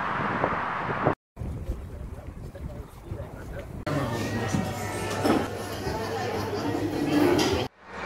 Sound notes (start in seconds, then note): 3.8 ambient café sounds